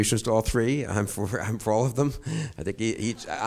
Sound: chuckles

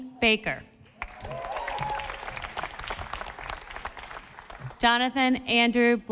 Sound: audience applauding

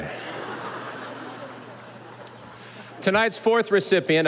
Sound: audience laughing

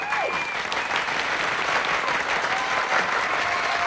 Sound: clapping and whistling

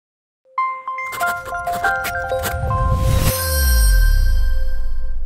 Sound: writing

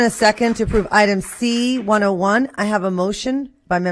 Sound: applause

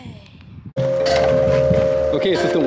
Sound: chimes ring

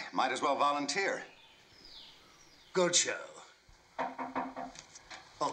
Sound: knock At Door

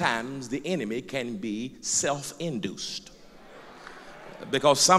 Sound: loud crowd agreement

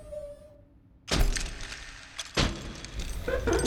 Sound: hard crash

